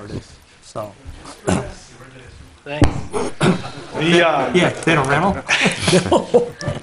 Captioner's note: board members chatters and laughs